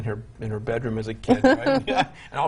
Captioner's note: laughing